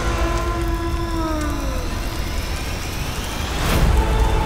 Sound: water splashing

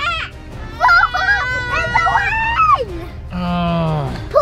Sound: girls shouting

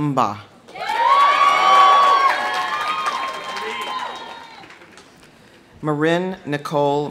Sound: audience cheering; audience applauding

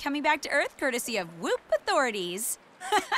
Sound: chuckles

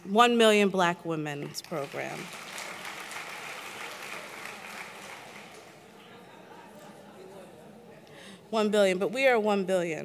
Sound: applause; applause

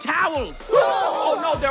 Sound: yelling

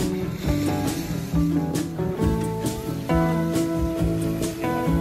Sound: wave sound

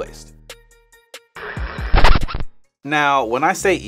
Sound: record scratching

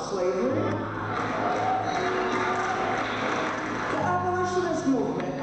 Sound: crowd applauds

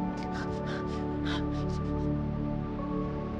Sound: somber music; Rue cries; somber music

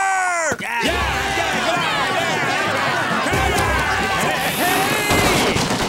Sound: cheering

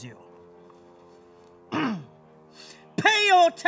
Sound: clears throat

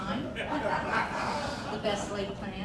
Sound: crowd laughing

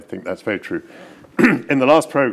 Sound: clears throat

